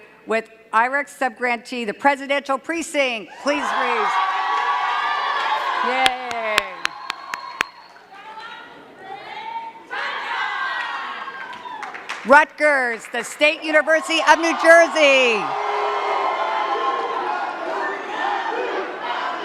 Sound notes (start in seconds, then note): 3.7 cheers and claps; 5.9 clapping; 13.5 cheers and claps